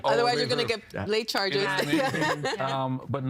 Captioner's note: laughing